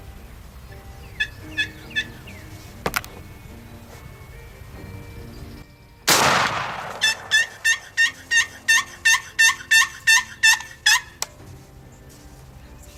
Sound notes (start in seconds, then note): 0.9 turkey calls; 6.1 gun shot; 6.7 turkey call